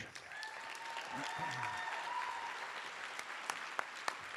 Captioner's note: cheers and applause